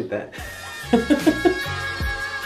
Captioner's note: laughing; funky music